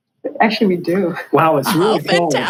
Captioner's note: laughs